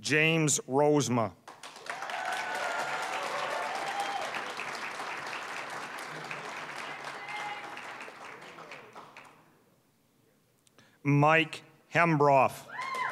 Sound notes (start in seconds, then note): 1.4 applause, cheering; 5.7 applause